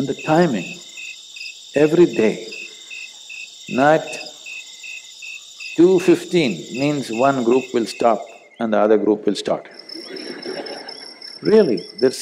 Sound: laughter

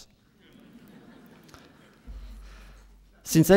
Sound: laughter

